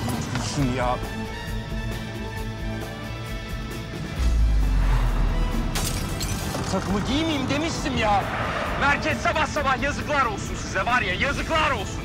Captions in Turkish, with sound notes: Üstüm ya! (Müzik - Gerilim) (Cam kırılma sesi) Bu takımı giyemeyeyim demiştim ya! Merkez sabah sabah, yazıklar olsun size var ya yazıklar olsun!